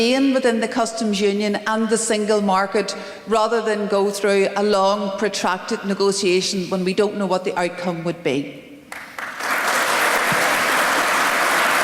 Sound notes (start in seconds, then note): 8.9 applause